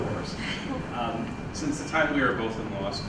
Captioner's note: woman laughs